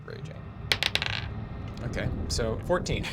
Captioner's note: dice bouncing